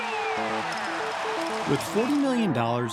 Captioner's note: audience cheers